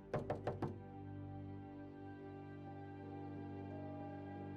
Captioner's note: knock on door